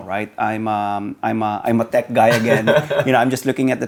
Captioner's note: laughs